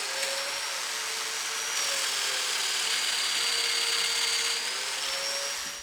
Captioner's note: machine whirring continues